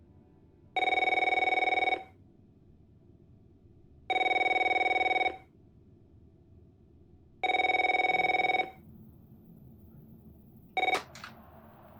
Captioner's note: phone rings